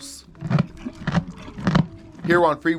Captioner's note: mule chewing